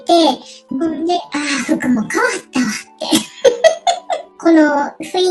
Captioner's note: laughs